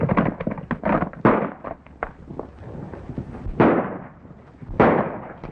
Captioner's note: rapid gun fires